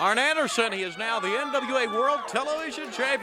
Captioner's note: crowd chatter